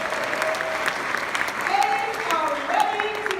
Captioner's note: clapping